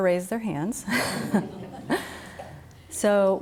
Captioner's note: all laugh